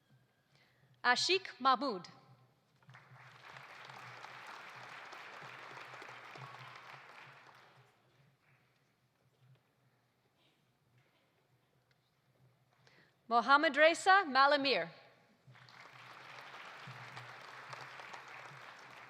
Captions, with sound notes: Ashique Mahmood. (audience applauding) Mohammadreza Malehmir. (audience applauding)